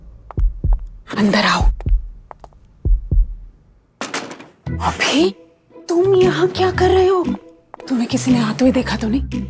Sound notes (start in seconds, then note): 4.0 door closes